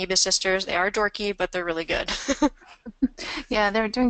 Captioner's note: laughs; voiceover